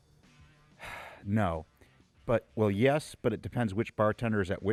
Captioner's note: sighs